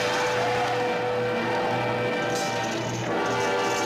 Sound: smashing

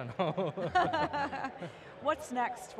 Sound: both laughs

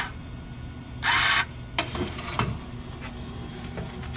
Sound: mechanical whirring sound of machine taking money; sound of door dropping open and dispensing carton

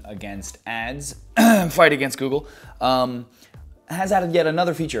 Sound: clears throat

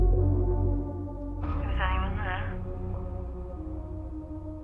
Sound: female voice continues

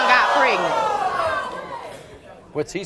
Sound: audience groaning

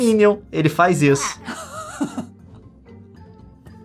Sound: laughing

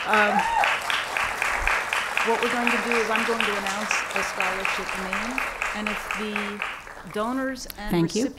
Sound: applause

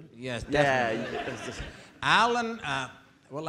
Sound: audience laughing

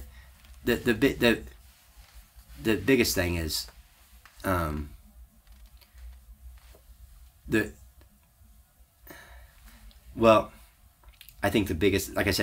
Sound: sighs

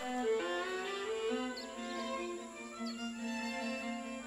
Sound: birds chirp

